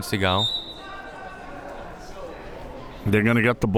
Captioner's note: whistle tweeting